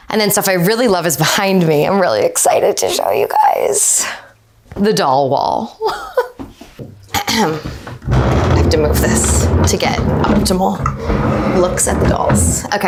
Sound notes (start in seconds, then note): 7.2 clears throat; 7.6 desk vibrates